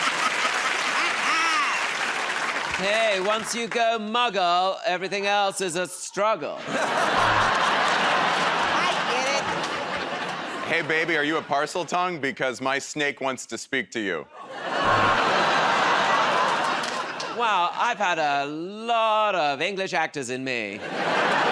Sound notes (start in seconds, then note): 0.0 cheers and applause; 0.0 laughs; 6.6 laughter; 14.6 audience groans; 20.8 laughter